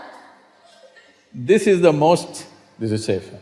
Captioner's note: laughter